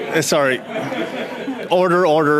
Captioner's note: conversation din